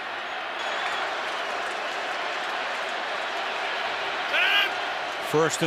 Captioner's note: cheering